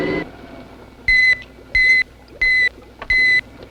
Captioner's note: beeping